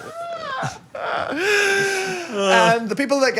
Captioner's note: group laughs